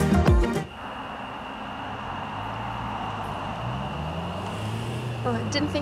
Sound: cicadas chirping; faint traffic humming

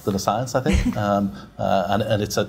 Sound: laughs

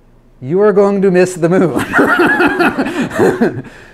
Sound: laughs loudly

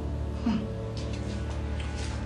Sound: scoffs

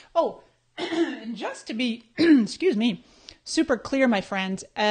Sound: clearing throat

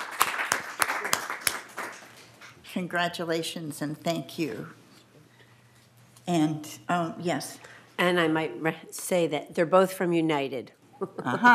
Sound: applause

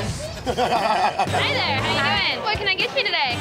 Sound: laugh

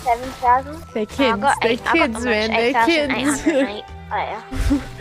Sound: laughs

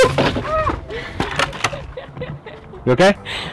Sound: laughter

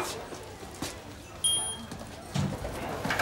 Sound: lift dings

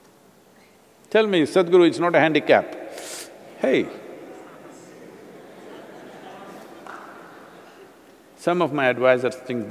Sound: laughs/Few Laughs

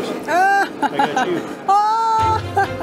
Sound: laughs

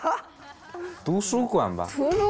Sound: chinese debate

